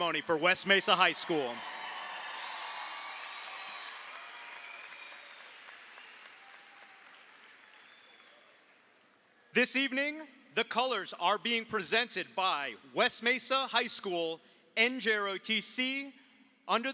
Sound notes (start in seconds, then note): 1.9 audience applauds; 1.9 audience cheers